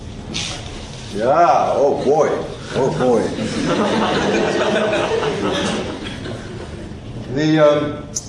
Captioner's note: laughter